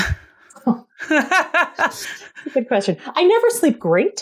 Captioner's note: laughter